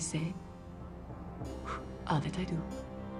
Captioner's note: <i> blows</i>